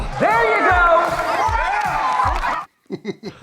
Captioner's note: claps and cheers